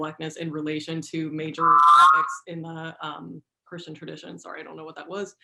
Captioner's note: screech